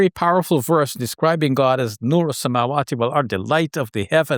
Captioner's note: speaks in Arabic